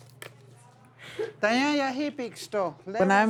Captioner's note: speaking Lakota